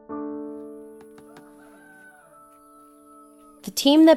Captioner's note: rooster crowing